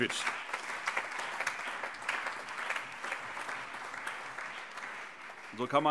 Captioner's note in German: Beifall